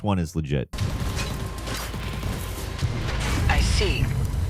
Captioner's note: guns firing